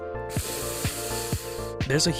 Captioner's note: weeb inhale